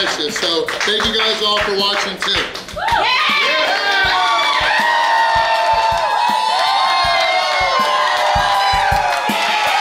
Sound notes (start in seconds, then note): 2.6 crowd cheering; 5.5 upbeat rock music